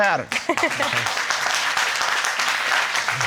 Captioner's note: audience clapping; laughing